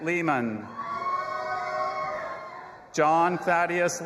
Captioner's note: audience applauding and cheering